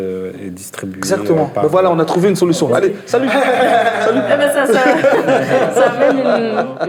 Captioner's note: laughs